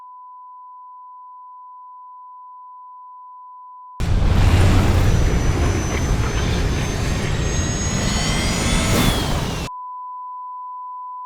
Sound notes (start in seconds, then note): 8.8 alarm blaring